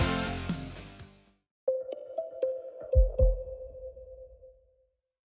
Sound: electronic chiming

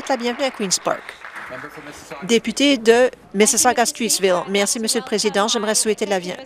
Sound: applause

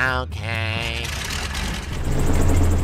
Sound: flying-boat-water-ship-elimination-area revving sounds

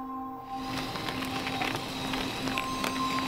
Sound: mechanical sounds

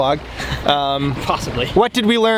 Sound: laughs

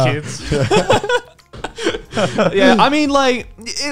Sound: group laugh

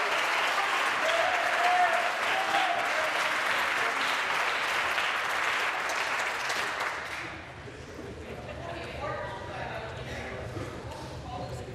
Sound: applause

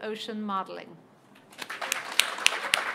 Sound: applause

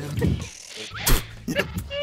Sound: laughs

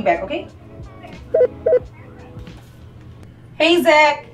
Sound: electronic beeping

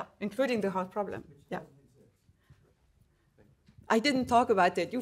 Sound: faintly speaking

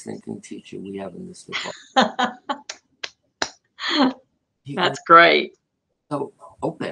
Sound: laughter

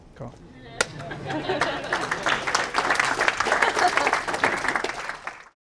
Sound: audience claps

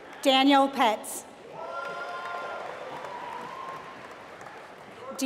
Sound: applause

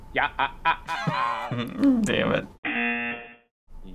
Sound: buzzer

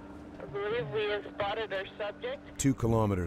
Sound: voiceover

